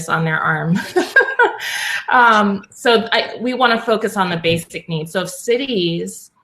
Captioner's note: laugh